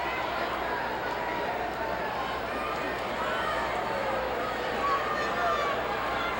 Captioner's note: audience chattering continues